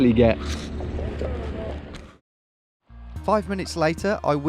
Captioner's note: speaking in a foreign language